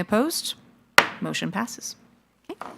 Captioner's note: gavel